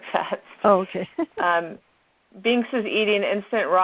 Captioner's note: laughs